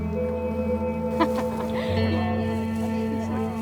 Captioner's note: woman laughs; gentle guitar music